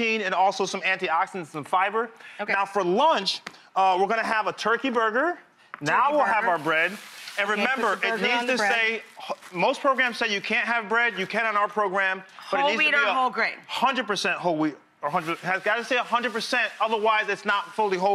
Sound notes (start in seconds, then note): none